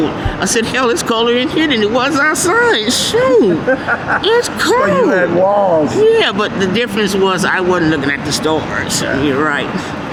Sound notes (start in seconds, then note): 3.1 laughing